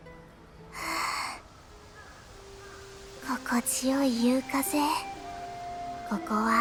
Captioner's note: sigh